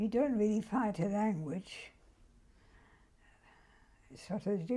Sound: pauses for 3 seconds

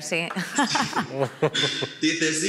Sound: some laugh

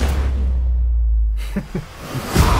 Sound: laughs

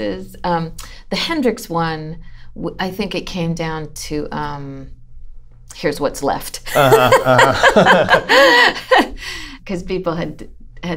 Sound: laughter

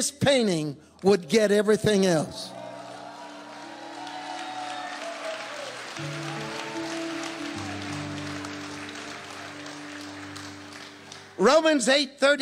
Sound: congregation cheering

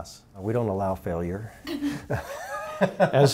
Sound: laughs

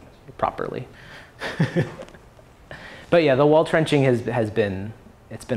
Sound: laughs

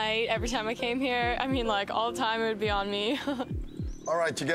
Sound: laughs

